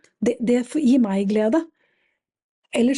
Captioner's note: none